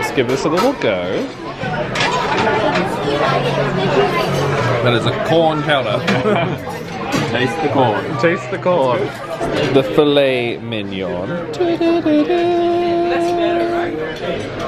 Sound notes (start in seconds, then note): 5.8 chuckles